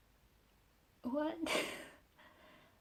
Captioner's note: laughs